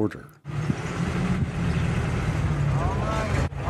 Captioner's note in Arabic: هدير محرك السيارة